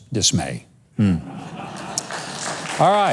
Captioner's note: laughs; claps